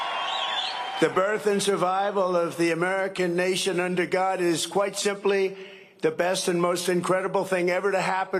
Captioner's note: cheering and applause